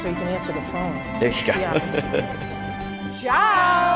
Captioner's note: chuckle